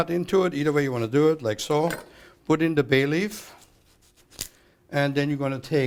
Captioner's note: crunching